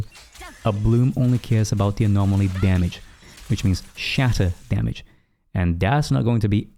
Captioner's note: shatter